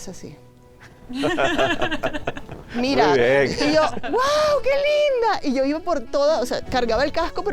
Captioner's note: laughs